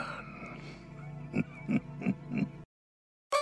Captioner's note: evil chuckle